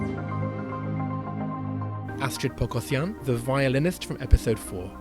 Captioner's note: voiceover